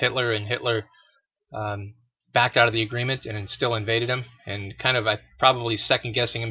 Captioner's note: sarcasm